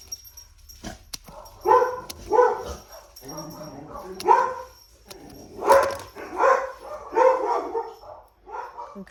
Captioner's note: dogs bark